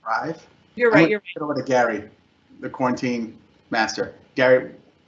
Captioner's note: speaks faintly